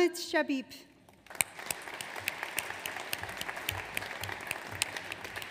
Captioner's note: audience applauds